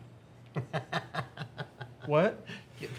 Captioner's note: Blue laughing